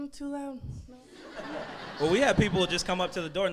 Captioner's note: crowd laughs